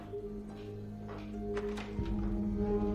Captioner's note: door opens and closes